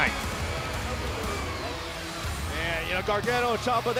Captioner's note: crowd cheering